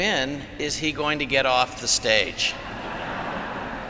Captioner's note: laughter